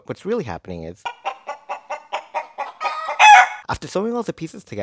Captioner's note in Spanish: ruidos de pollo